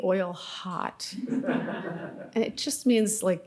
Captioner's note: audience laughing